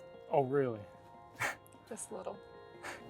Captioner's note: laughing